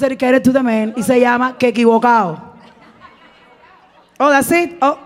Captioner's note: speaking in Spanish